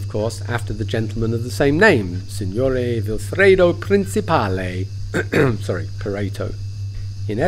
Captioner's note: cough